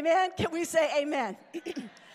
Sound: clears throat

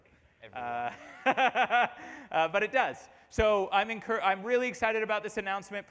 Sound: laughter

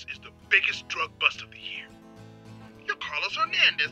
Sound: voiceover

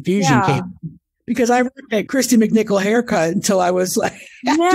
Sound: laughs

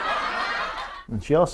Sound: laughter

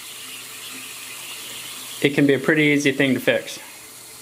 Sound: water rushing

